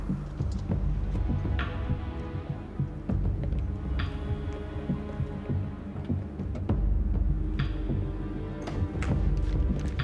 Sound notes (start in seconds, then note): none